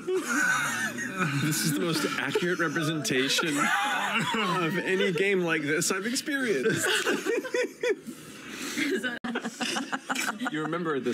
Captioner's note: laughter